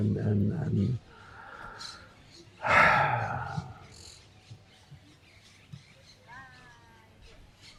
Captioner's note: pauses 6 seconds